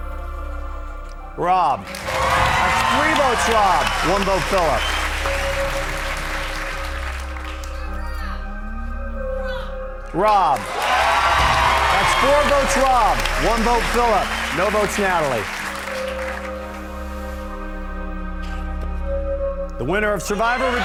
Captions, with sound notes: Rob. (audience cheers) Three votes Rob, one vote Phillip. (audience clapping) Rob. (audience cheers) That's four votes Rob, one vote Phillip, no votes Natalie. The winner of "Survivor: Redemption Island," Rob.